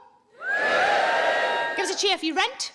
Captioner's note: audience cheering